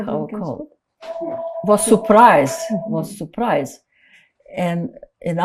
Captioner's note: phone ringing